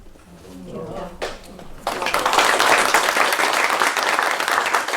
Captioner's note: applause